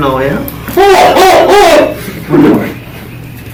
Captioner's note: screaming